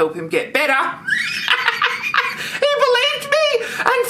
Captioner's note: laughs